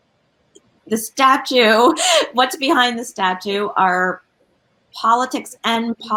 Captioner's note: chuckles